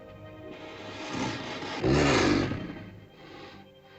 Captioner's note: ominous music; dinosaur growls; sentimental music